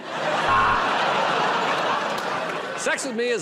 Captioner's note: buzzer